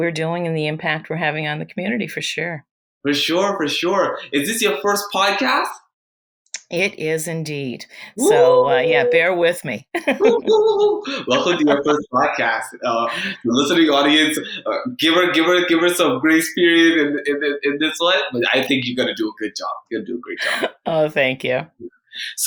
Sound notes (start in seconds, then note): 8.2 cheers; 10.5 laughs